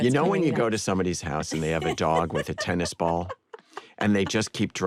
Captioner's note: laughter